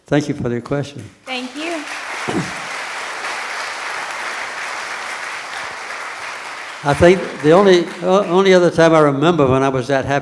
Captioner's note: applause from the audience